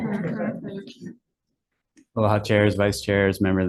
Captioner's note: attendees chuckling